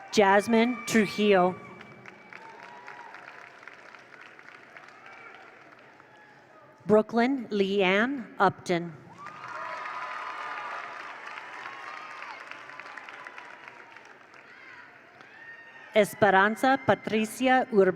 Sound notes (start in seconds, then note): 1.6 attendees applaud; 1.8 attendees cheer; 9.1 attendees cheer; 9.1 attendees applaud